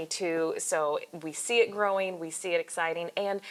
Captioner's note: none